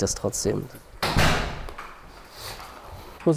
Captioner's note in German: Tür knallt zu